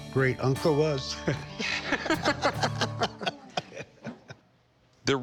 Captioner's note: both laugh